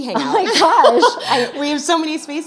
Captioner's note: laughter